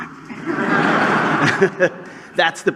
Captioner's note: laughter